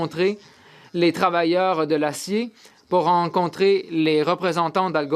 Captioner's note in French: voix de l'interprète